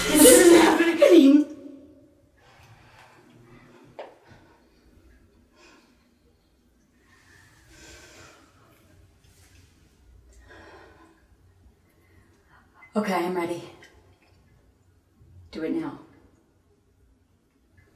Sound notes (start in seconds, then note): 10.3 exhales breath